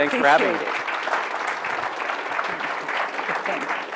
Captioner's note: audience clapping